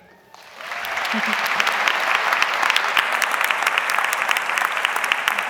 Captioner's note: audience clapping